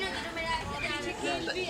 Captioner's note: far kid voices